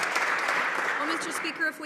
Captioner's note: some Applause